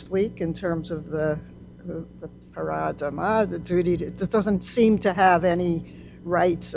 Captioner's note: non-english